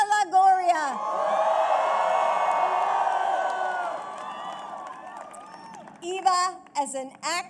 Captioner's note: applause